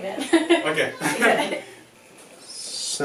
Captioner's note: laughing